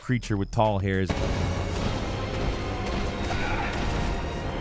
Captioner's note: creature roars